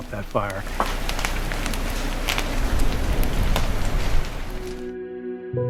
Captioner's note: fire flames crackling; somber music